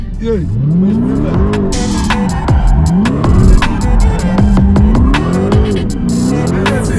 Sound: car engine revving; tires screeching

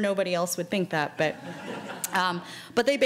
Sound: laughing

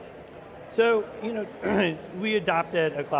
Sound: clears throat

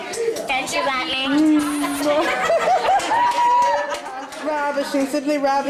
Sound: squeals; women laughing

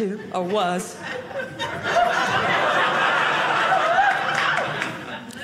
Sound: audience laughing

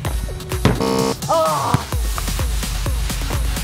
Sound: buzzing

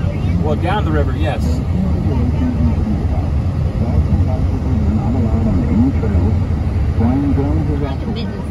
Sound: radio chatter

